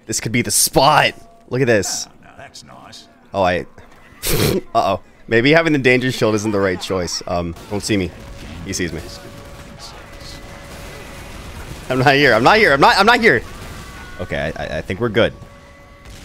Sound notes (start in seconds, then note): 3.8 laughs; 9.4 guns firing; 15.3 guns firing